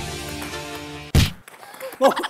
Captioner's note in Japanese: バン